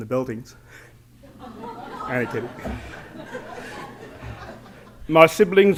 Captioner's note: laughter